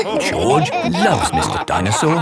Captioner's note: all laughing